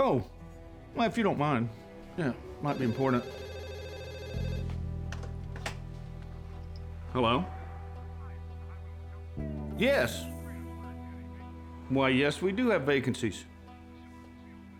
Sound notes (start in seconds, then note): 2.6 phone rings